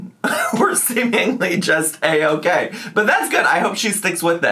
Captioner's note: laughs